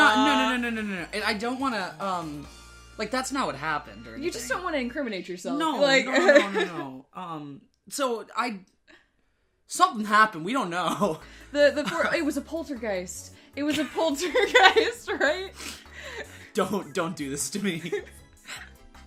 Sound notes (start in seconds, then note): 5.9 laughing; 14.2 both laughing